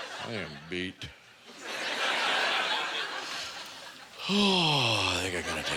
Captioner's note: sighs; audience laughter